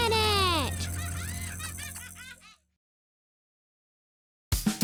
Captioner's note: giggling